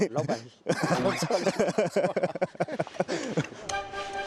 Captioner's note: ㅋㅋㅋㅋㅋㅋㅋㅋㅋㅋ